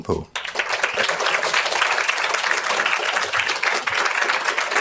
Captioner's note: audience applauds